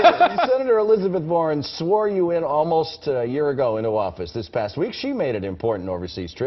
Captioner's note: laughter